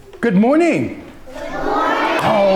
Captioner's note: children reply loudly